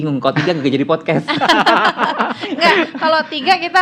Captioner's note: laugh